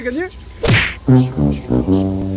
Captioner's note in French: Bruit de coup cartoonesque; Musique de défaite à la trompette